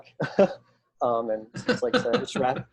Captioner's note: laughing